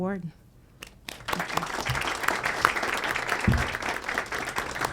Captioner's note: audience applauds